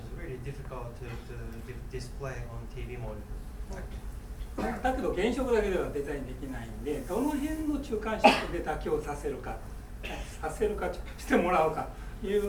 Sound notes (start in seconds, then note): 4.9 speaking in foreign language; 8.2 coughing